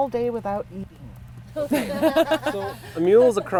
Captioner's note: laughs